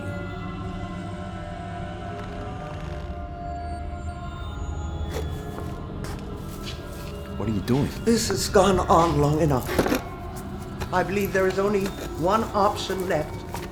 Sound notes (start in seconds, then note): 2.6 looming music; 2.6 low growling